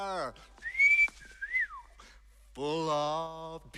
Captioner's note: Свист